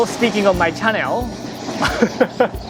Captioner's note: train rolls; chuckles